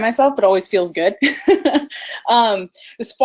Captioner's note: laughs